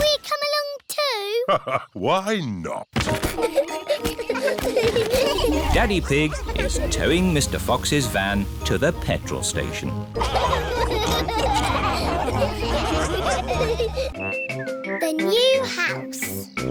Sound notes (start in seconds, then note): 3.1 children giggling; 3.2 laughs; 10.1 all laughing